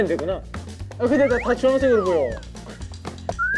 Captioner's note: struggling